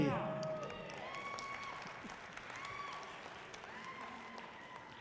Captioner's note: audience cheering loudly